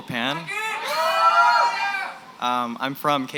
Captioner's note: cheering